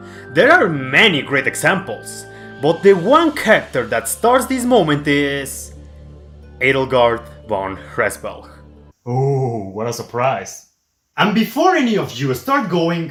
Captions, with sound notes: There are many great examples, but the one character that starts this moment is... Edelgard Von Hresvelg. (*Sarcastic and unenthused*) OoOoOh, what a surprise. AND BEFORE ANY OF YOU START GOING-